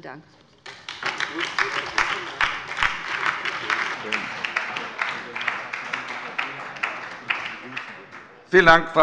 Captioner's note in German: Beifall bei der LINKEN und der SPD